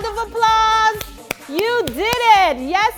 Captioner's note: claps